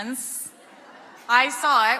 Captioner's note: audience laughing